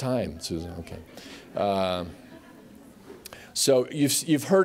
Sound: laughter

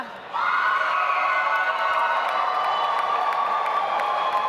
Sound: audience applauds

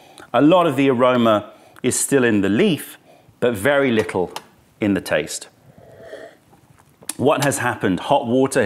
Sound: sips tea; sips tea

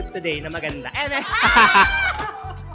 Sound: screams

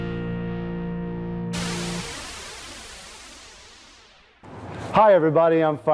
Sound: wind whooshing

